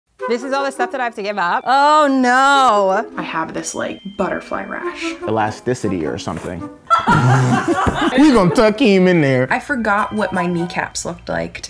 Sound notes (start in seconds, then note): 6.9 laughing hysterically